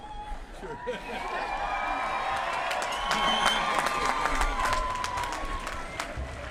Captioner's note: crowd applauding